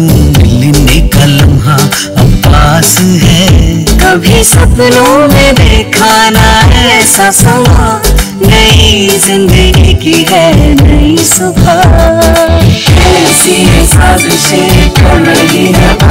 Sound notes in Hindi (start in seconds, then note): none